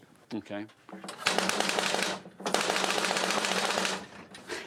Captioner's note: flapping